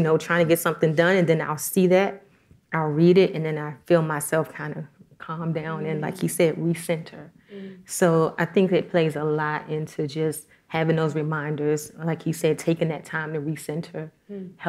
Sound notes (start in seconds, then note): none